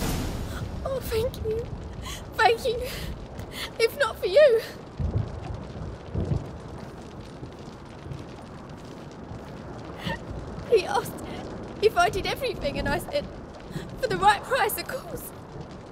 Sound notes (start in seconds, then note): 0.7 sobbing; 10.0 sobbing; 15.7 sobbing